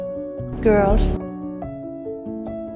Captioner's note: voiceover